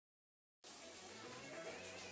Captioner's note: upbeat music; water trickling